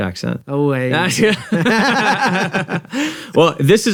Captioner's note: both chuckling